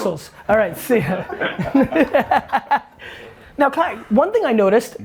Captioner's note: group laughter